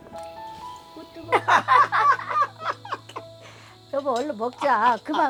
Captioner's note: both laughing